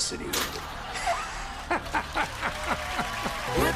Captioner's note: laughter and applause